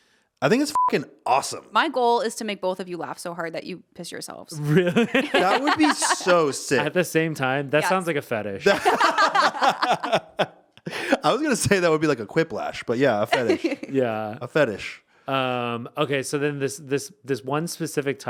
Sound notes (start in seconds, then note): 0.7 beep; 4.6 laughing; 8.6 all laughing; 13.3 laughing